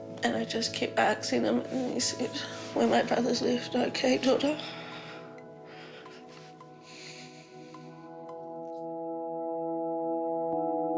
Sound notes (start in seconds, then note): 4.1 sobs; 6.8 breath wavers; 8.8 poignant music